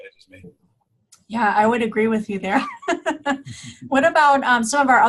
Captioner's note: laughing